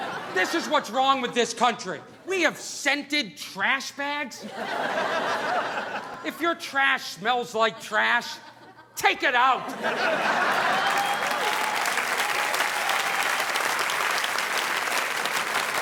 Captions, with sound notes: this is what's wrong with this country. We have scented trash bags? (audience laughing) If your trash smells like trash, take it out. (audience laughing) (audience applauding)